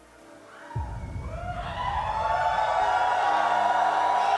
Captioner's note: audience whooping